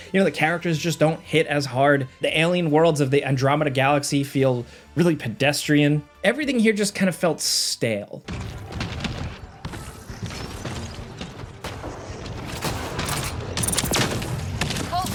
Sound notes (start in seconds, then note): 8.7 footsteps echoing; 13.0 laser blasting